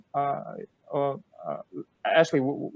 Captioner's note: stuttering